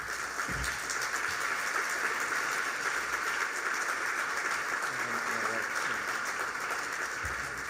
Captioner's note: applause